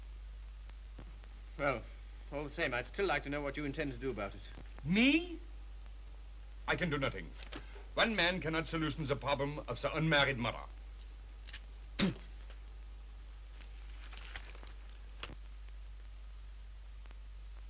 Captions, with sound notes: - Well, all the same, I'd still like to know what you intend to do about it. - Me? I can do nothing. One man cannot solution the problem of the unmarried mother. (spits)